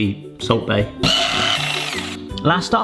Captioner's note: mixer whirs